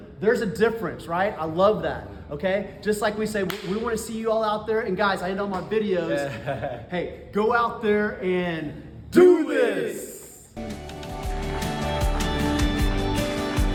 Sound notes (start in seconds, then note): 6.1 laughs; 10.5 upbeat music